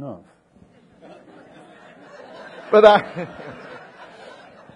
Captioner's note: audience laughing